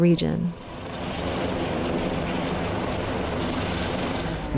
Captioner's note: helicopter